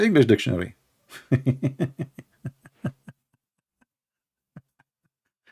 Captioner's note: Ketawa